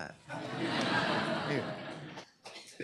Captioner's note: laughter; applause